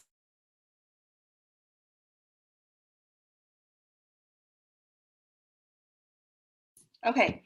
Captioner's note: silence